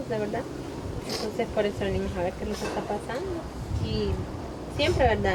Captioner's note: sniffling